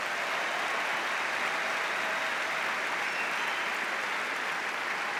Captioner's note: applause